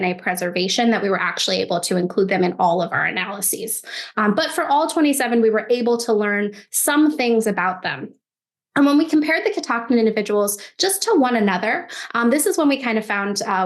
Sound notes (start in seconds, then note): none